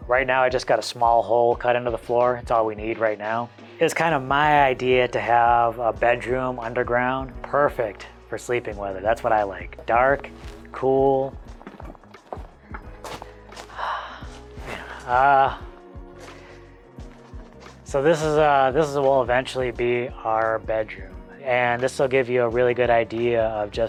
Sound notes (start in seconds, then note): 14.6 sighs